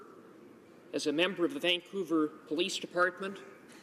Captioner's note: none